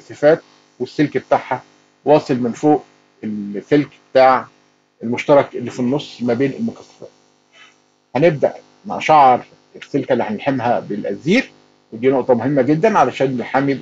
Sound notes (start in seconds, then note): none